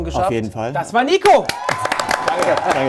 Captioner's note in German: Applaus, Jubel